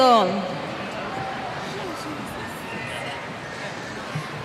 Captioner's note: cheers